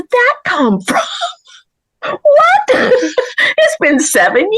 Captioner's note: laughs